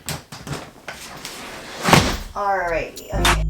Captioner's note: crashing